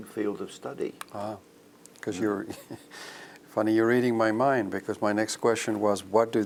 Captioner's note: laugh